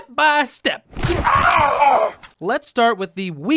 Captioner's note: suffering noises